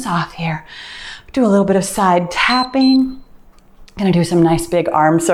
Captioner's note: timer beeps